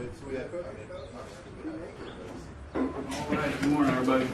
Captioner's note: fire fighters chattering